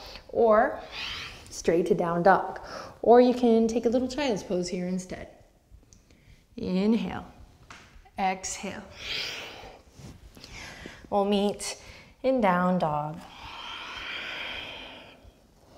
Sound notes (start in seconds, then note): 10.4 deep breath; 13.2 deep breathing